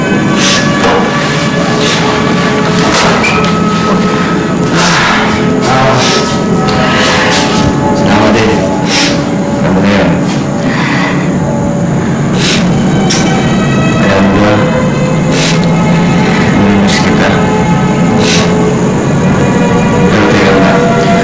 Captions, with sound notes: [chuckles] Thank you, too. You know what I mean. -You know what? -[Judith sniffles] I'll miss you. But wait a moment.